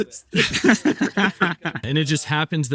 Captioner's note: group laughing